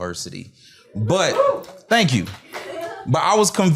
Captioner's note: cheers